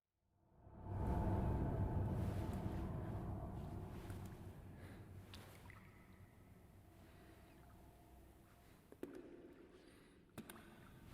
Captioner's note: ominous noises